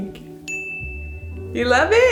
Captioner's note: loud ding